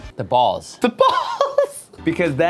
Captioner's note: laughter